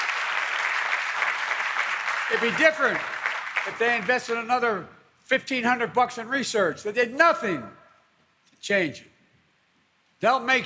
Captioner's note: applause